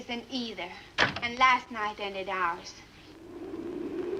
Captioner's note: door closes; wind howls